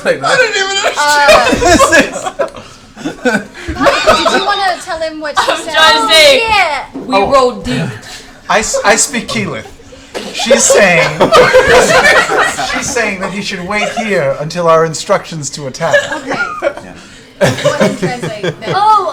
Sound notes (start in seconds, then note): 0.1 laughs; 10.1 laughter